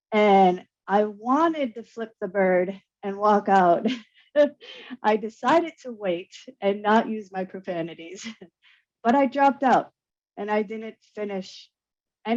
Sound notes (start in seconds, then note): 3.9 chuckles